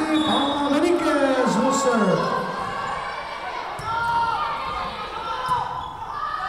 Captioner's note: whistle blowing